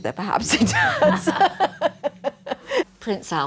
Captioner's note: both laughing